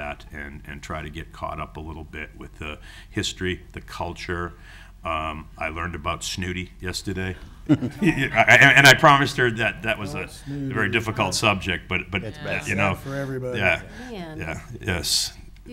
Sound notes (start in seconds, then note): 8.0 gasps